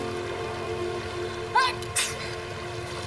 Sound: Jonas sneezing

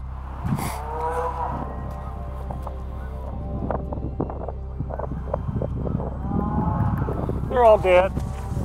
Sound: cows bellering

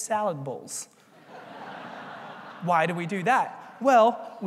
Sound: laugh

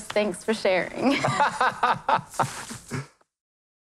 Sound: laughing

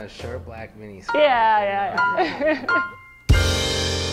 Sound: laughs

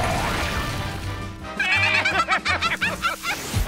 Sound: laughing

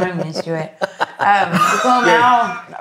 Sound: laugh

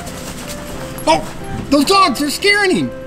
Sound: dog barking

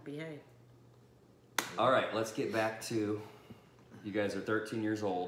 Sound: claps

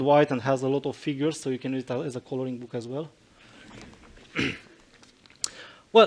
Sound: chuckles in the audience

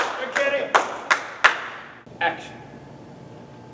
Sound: clapping

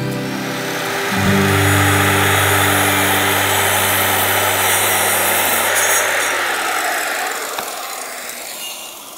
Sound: construction sounds

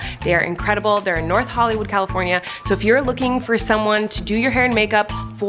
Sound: none

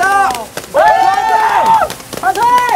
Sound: cheering & screaming

